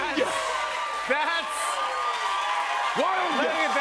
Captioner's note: cheers and applause